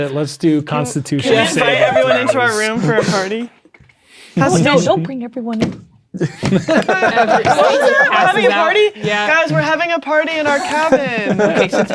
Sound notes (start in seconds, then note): 6.1 multiple people speaking and laughing; 6.2 players laughing